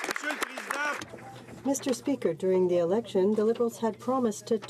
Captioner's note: some Applause